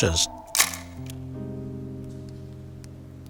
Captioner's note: clicking